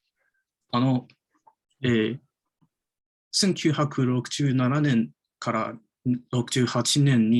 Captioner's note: speaks in Japanese